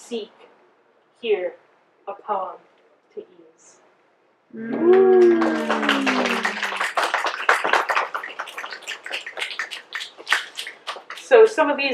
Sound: applause and snaps

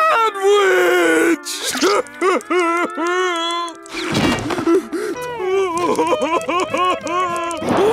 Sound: crying

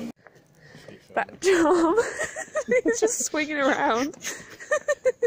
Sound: laughs

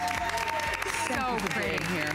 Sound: applause

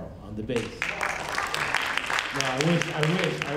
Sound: audience applauding; audience members cheering

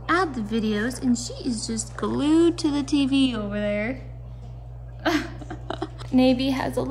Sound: laughs

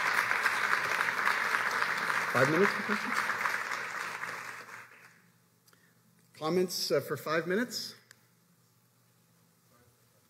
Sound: applause

